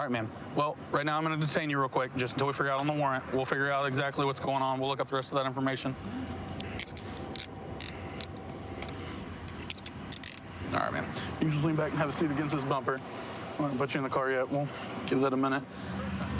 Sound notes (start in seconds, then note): 10.0 handcuff closing